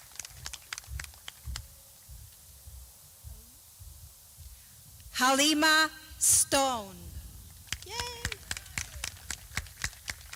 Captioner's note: clapping